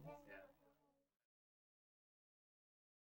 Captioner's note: none